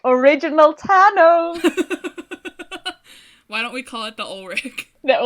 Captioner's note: laughs